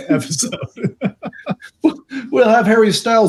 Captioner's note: laughing